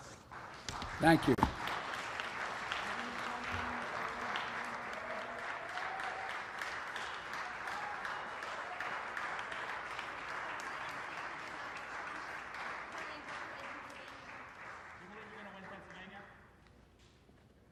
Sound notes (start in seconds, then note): 6.9 applause